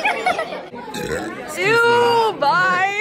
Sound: burp

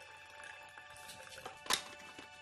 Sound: water dribbling

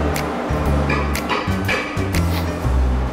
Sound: relaxed jazz music; metal clanging; relaxed jazz music

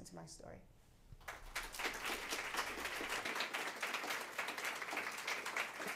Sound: applause

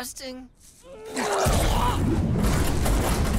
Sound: vomiting

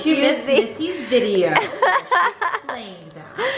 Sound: laughs

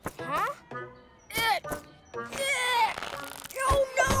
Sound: straining

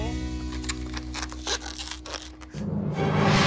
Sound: squeaking

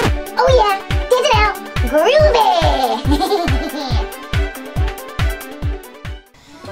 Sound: giggles

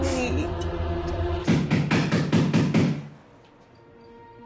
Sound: banging on door

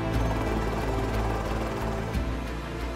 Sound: blades whirring

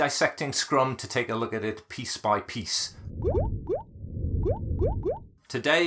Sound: bubbles popping

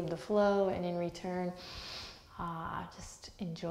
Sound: deep breath

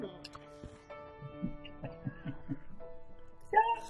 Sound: laughter from behind the camera

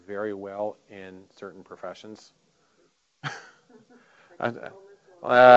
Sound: laughing

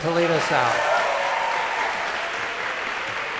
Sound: applause

